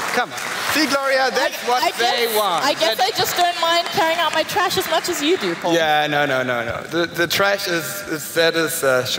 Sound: applaus

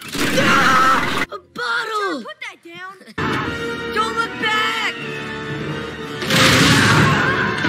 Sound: screaming

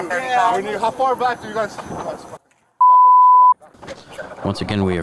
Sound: beeping

